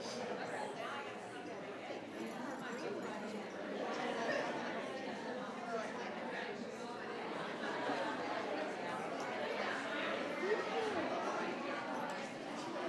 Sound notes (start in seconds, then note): 3.3 audience and board members chatting indistinctly continues